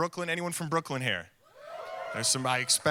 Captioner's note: audience cheering